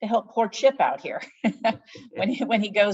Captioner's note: both laughing